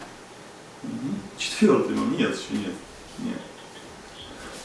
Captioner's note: laughing